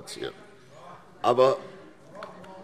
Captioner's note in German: Zurufe SPD: Oh, oh, oh!